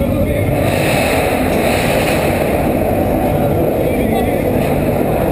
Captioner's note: more awesome exhaust noises